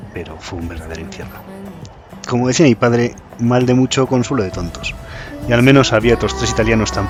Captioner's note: spanish say